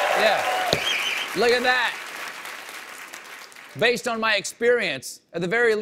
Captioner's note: cheers and applause